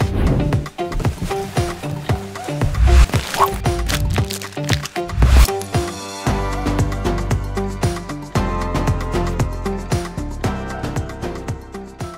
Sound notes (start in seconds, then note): 5.0 zipping of two bags; 6.3 triumphant, upbeat music